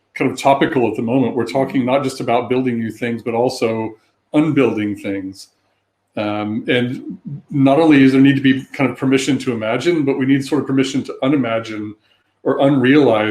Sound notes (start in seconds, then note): 6.2 erm